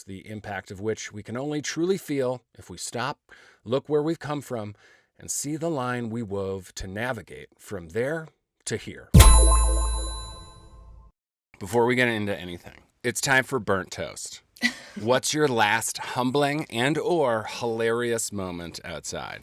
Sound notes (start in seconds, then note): 9.1 bell dings